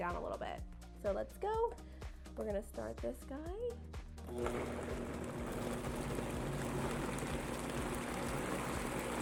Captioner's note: blending sounds